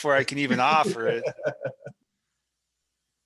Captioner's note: laughing